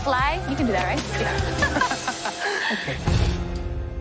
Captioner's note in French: laughter